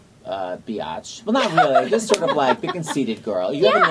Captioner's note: laughing